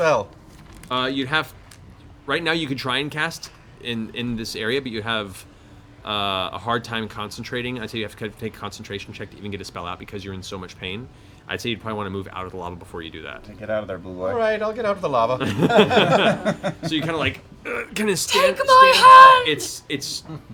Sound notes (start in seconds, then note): 16.6 straining